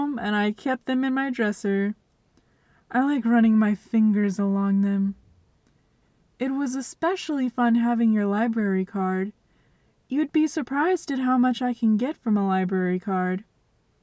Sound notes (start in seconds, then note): none